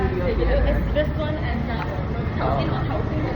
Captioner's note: Cantonese